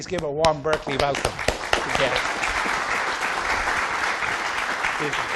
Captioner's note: audience applauding